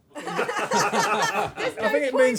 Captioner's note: laughter